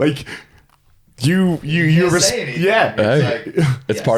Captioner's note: stammers